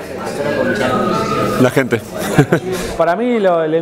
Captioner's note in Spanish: ríe